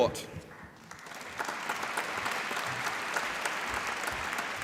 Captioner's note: applause